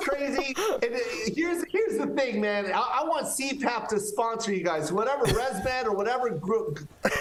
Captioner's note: laughter